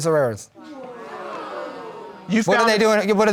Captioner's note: audience exclaiming